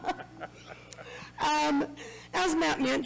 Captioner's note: laughing